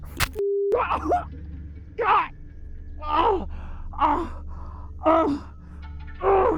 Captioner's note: groaning